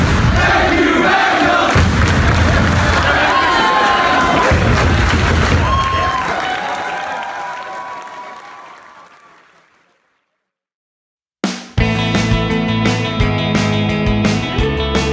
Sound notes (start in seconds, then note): 2.1 clapping; 3.3 audience whooping; 11.5 funky music